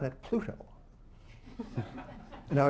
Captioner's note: laughter